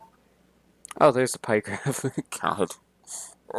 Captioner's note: giggles